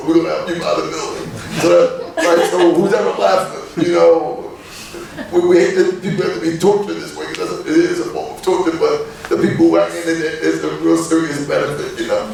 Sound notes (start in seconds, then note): 2.6 laughing